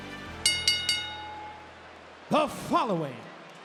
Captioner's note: bell rings